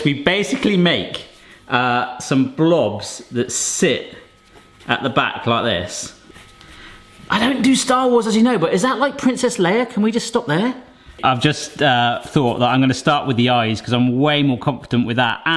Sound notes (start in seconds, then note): none